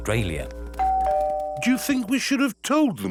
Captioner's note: doorbell rings